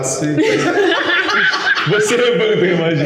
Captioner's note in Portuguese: risadas